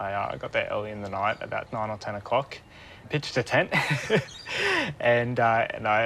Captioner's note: laughs